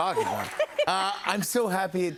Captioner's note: laughs